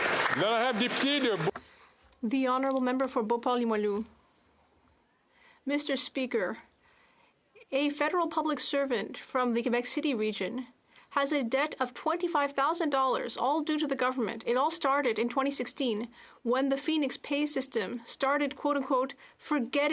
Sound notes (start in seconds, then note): 3.6 some Applause; 5.1 speaking French